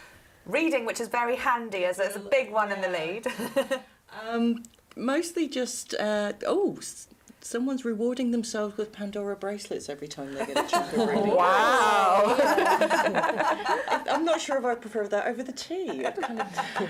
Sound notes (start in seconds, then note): 3.3 laughs; 12.0 laughter